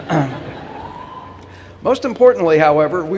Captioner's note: laughter